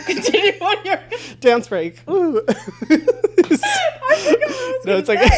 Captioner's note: both laughing